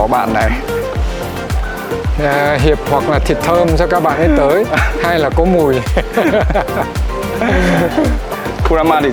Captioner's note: laugh